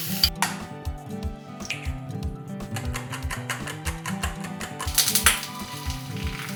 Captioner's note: sizzling; egg cracking; whisk tapping against bowl; upbeat music